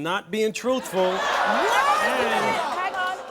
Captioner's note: audience groaning and shouting